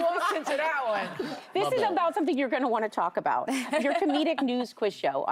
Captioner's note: laughter and applause